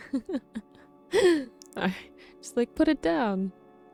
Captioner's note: chuckles